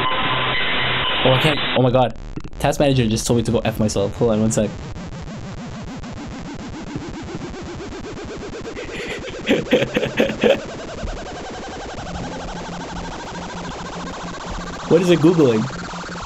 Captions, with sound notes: Okay, oh my god. Task Manager just told me to go F myself. Hold on one sec. (virus oscillating) (laughing) (computer chiming) What is it Googling?